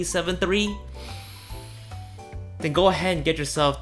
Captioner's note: inhale loudly